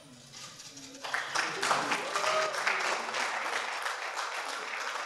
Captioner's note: audience applauding